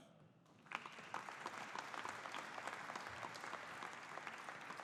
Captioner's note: audience applauding